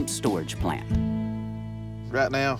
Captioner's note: none